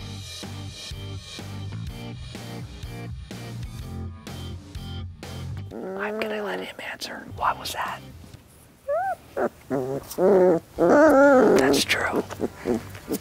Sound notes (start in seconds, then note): 0.2 cheery music; 5.6 puppy growls; 8.8 puppy whimpers and groans